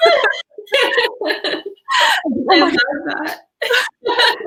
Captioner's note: all laughing